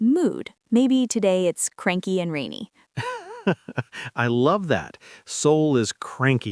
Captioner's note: laughs